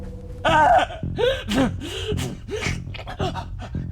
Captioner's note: screams in agony